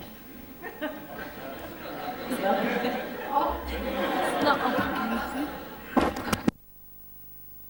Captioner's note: laughter; all laugh